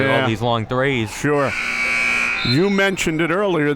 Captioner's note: buzzer sounding